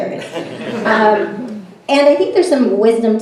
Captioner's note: everyone laughs